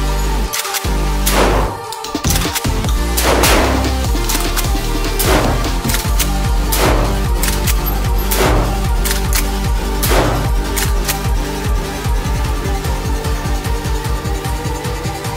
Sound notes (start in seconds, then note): 0.5 gun clicking; 1.2 gun firing; 1.2 gun clicking; 1.4 gun firing; 5.1 gun clicking; 6.6 gun firing; 6.7 gun clicking; 8.3 gun firing